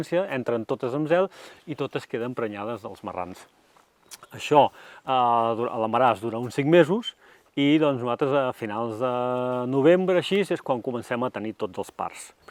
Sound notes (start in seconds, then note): none